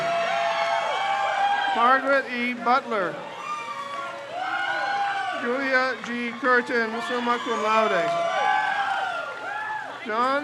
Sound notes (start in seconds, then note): 0.3 crowd cheers; 3.4 crowd cheers; 8.4 crowd cheers